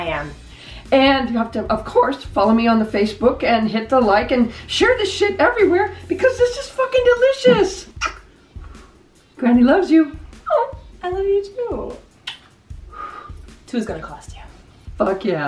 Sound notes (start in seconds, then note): 7.9 blows kiss